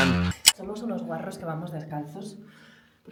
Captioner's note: in spanish